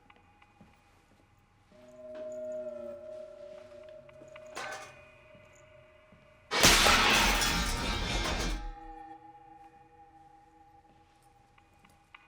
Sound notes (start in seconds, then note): 4.2 clang; 6.5 clanging